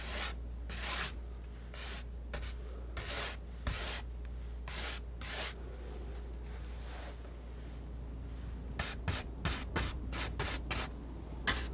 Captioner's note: scratching